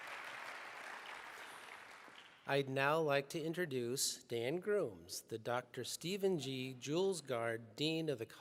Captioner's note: applause